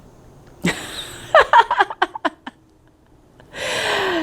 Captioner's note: laughing